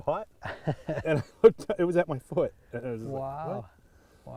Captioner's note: both chuckling